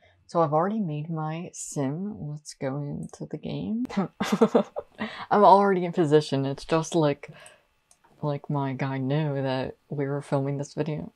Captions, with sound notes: So, I’ve already made my sim let's go into the game. (Laughter) I'm already in position it's just like like my guy knew that we were filming this video?